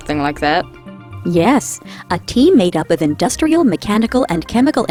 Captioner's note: voiceover